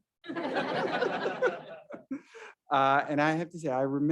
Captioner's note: all laughing